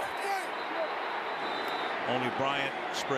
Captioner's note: whistle